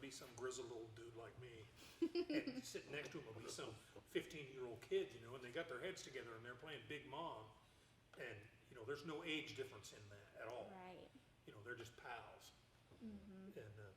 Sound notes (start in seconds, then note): 2.0 laughing